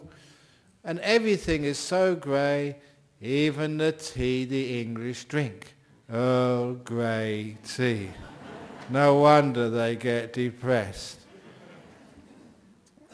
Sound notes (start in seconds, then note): 8.0 laughter